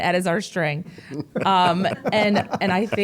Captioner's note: laughing